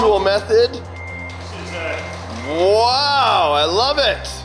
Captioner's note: truck beeping